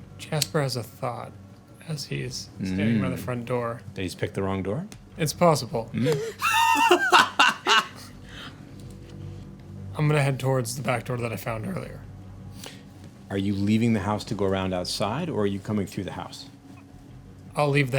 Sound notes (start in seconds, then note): 6.0 laughing